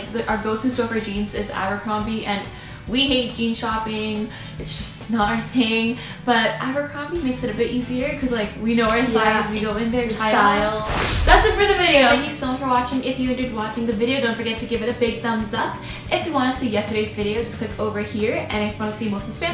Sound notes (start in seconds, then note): 10.8 rush of air